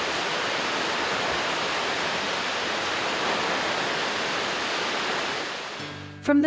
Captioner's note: water falls